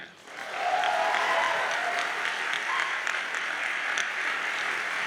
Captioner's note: audience cheers and applauds